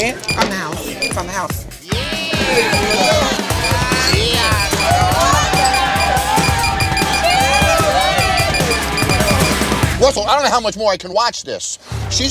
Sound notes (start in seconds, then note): 1.9 customers cheering; 2.5 counter beeping